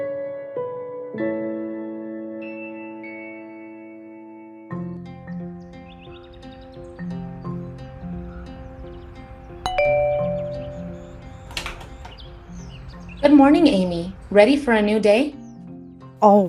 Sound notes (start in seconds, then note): 9.6 doorbell ringing; 11.4 door clicking open